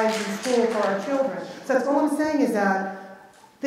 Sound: clapping

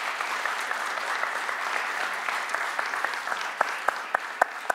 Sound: audience applause

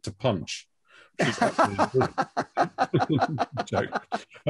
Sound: laughs

